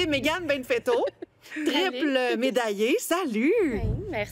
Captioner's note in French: rires